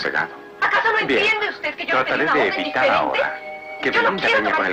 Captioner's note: Belinda arguing